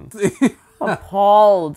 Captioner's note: laughing